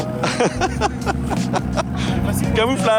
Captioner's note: laughter